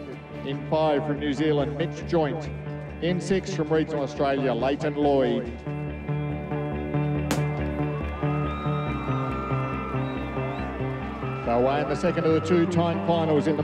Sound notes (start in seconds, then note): 7.3 starter pistol fires; 7.6 cheering